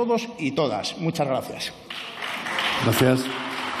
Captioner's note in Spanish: Aplausos